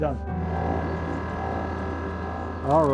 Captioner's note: machine humming